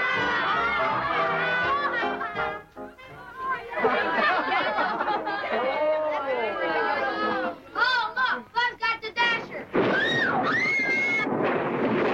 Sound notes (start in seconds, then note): 0.1 group chatter; 6.3 thunder claps